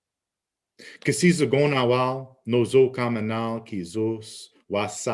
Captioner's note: speaking Abenaki